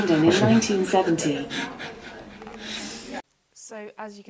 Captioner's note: laughing